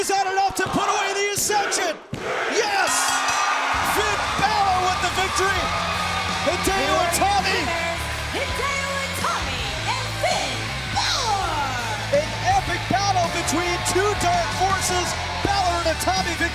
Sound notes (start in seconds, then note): 2.9 crowd chatter; 6.0 bell ringing; 6.0 crowd cheering